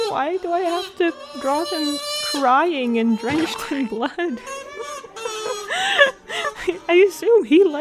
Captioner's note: laugh-crying noises